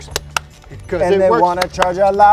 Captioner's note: clapping